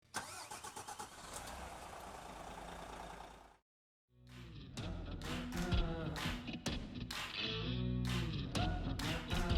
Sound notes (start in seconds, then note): 0.0 car engine starts; 4.3 upbeat music